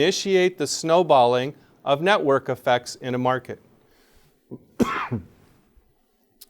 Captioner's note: coughs